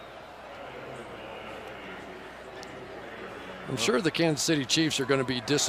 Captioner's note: pa announcement